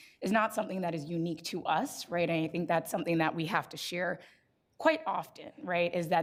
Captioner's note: none